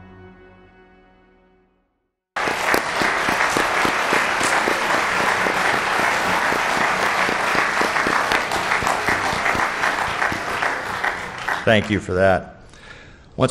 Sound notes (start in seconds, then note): 2.2 people clapping